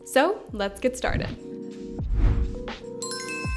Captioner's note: screen whooshes; logo chimes